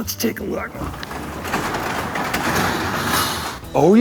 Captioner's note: garage door opens